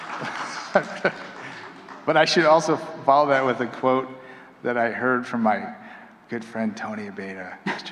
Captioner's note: applause; chuckling